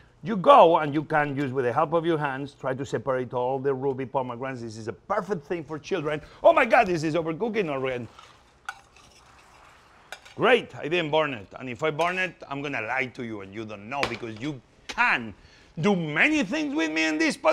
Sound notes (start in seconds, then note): 7.6 spoon stirring